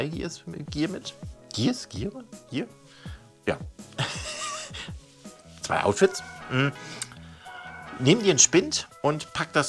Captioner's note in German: lacht